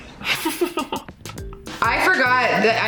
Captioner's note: laughs happily